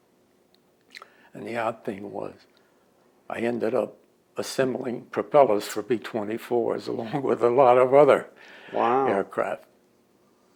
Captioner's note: laughs